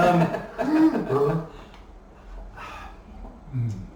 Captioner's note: laughing